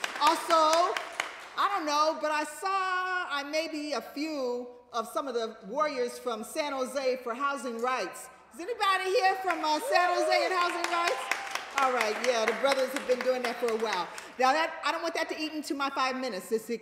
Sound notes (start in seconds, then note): 11.3 applause